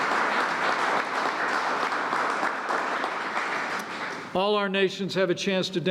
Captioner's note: applause